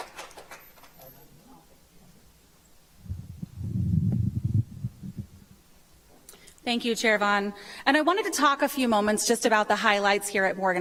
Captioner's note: applause